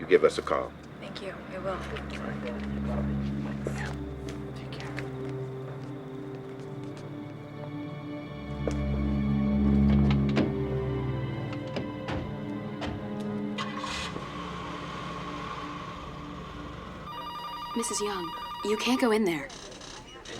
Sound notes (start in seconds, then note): 6.0 soft dramatic music; 10.5 car doors opening and closing; 13.5 engine starting